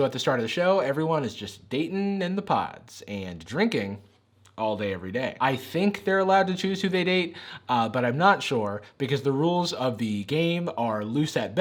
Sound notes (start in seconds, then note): none